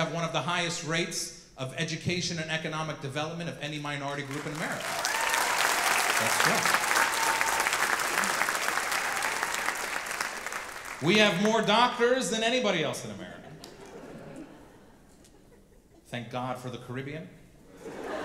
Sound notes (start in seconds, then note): 5.4 audience clapping